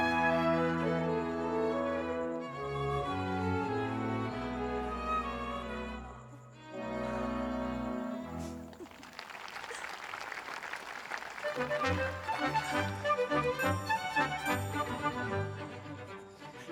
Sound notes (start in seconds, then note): 8.4 audience applauds; 11.3 sprightly music